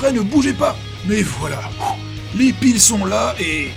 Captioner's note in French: soufflement